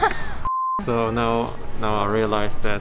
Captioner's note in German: Piepton